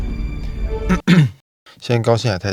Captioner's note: cough